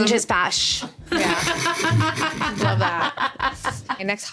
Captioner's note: everyone laughing